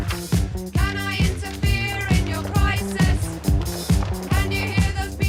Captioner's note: crowd stumbling